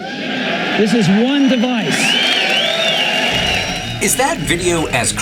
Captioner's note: audience roaring